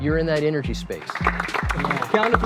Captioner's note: applause